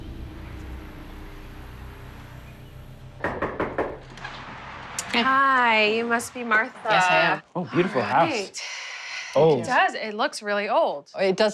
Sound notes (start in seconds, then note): 3.2 knocking on door